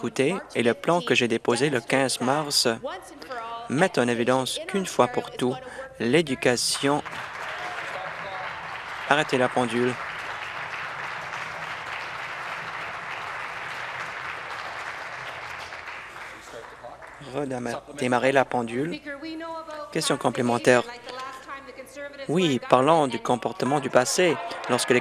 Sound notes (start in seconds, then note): 10.5 applause